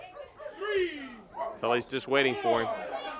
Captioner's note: crowd chatter